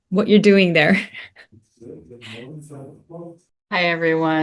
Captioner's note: laughs